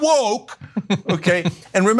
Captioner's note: laugh